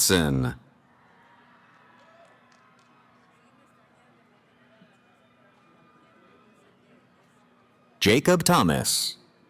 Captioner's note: cheering